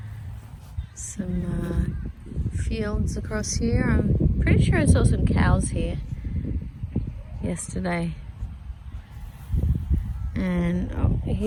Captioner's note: more wind